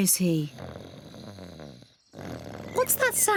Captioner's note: snoring